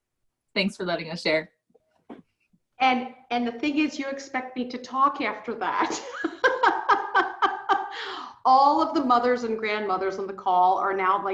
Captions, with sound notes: Thanks for letting us share. And the thing is you expect me to talk after that. (laughs) All of the mothers and the grandmothers on the call,